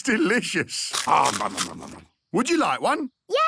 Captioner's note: crunching